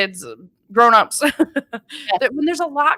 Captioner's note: laughing